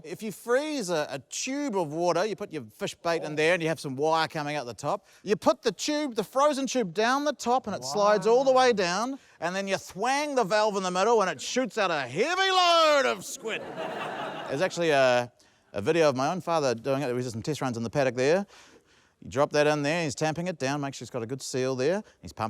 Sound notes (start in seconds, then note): 13.3 laughter